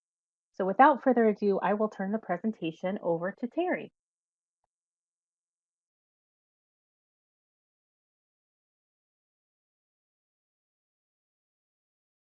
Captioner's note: silence